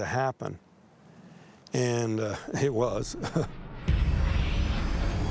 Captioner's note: chuckles